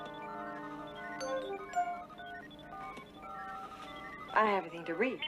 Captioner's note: none